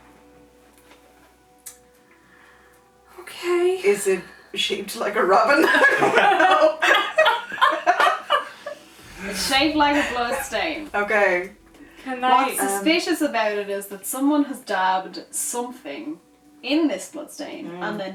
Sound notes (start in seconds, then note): 8.4 laughter